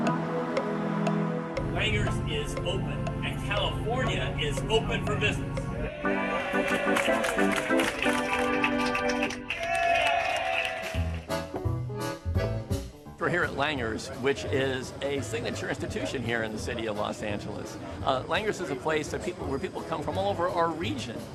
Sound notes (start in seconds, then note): 6.4 cheers; 6.6 applause